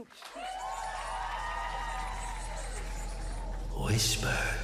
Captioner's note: cheers and applause